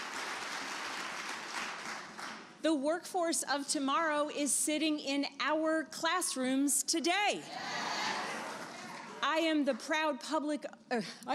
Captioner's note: applause